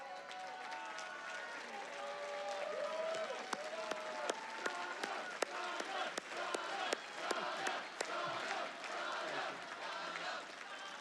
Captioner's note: Audience chants "Donna"